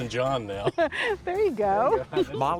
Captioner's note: chuckles